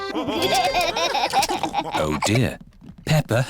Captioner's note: laughter